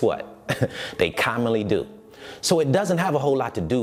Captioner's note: laughs